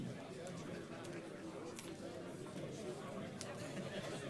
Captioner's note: chatter